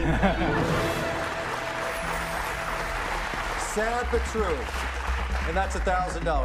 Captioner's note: cheers and applause